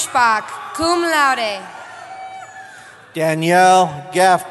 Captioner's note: cheering